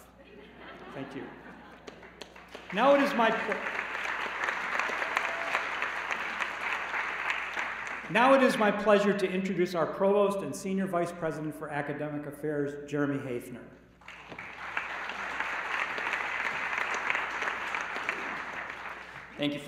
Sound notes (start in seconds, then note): 0.1 laughter; 6.5 applause